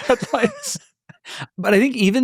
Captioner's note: laughing